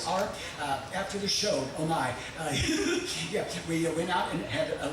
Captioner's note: laughing